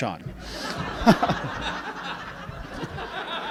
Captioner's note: laughing